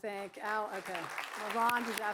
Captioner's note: applause